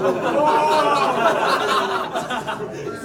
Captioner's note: laughs